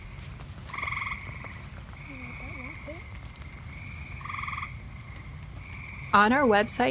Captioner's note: sounds of frogs calling from a marsh on a rainy summer evening